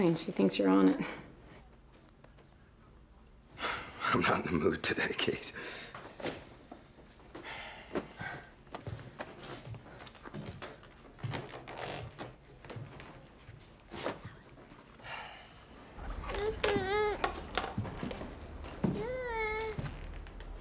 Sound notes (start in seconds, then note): 15.0 sighing; 16.2 fussing